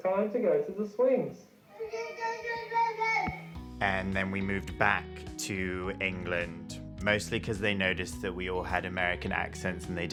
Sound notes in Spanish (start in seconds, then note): 1.9 balbucea